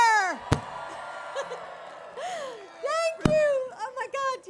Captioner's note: applause